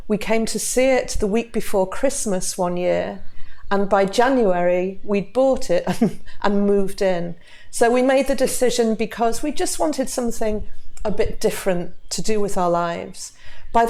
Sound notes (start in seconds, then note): 5.8 chuckles